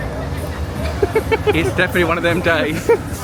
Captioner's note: laughs